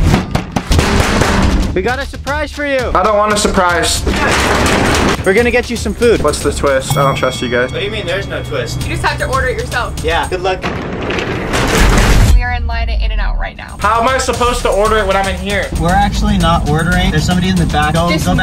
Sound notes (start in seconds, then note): 0.3 door bangs; 3.8 door rattles; 10.6 door rattles